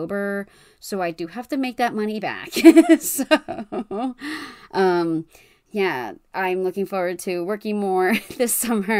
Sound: laughs

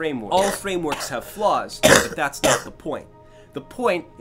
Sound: coughing

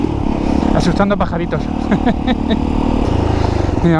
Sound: laughs

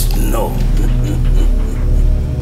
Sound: laughter

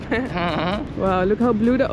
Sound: giggles

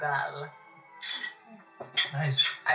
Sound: clangs from silverware

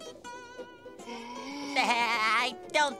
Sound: chuckles

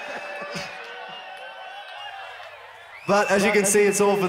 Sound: audience cheers; laughs

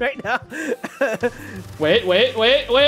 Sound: laughs

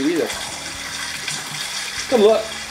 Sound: water splashing

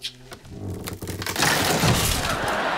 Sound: bed falling; laughing

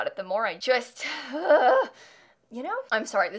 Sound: angry groan

